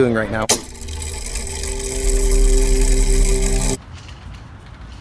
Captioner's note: mechanism whirring